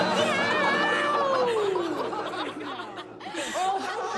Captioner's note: laughter